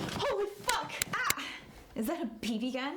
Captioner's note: pellet Shots Fired